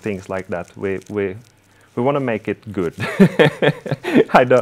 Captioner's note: laughing